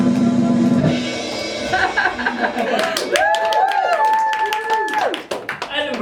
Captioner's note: drum roll; applause